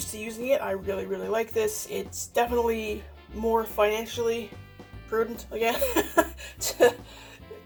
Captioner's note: laughs